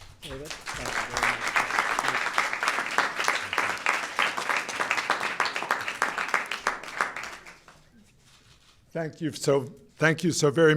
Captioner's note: applause